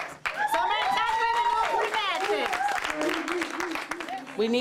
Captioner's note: audience cheering